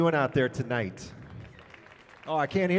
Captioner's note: audience applauding